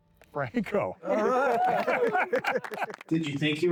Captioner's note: all laughing